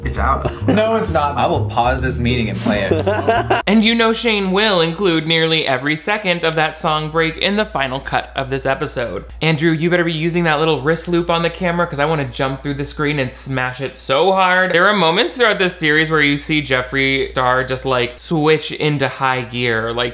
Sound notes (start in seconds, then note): 2.4 laughs